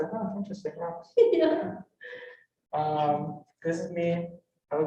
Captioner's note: chuckles